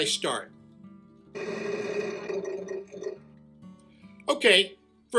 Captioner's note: rotating wheel noise